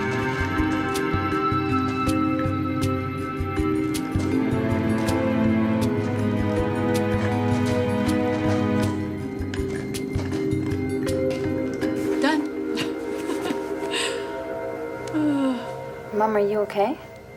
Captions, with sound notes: - No honey, he would never do that. - Well he wanted to you know? - Really? (giggling) - He did. - I think I've had enough of that.